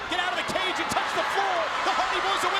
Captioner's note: audience cheering